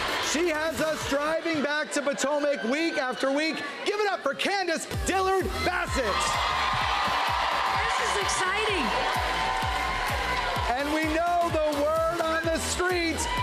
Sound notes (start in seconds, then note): 5.0 cheers and applause